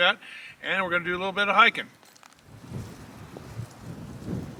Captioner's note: wind noise